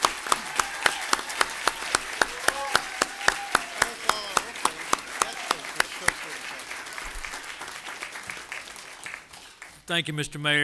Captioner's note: applause